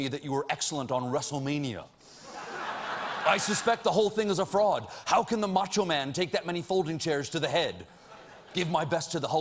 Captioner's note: laughter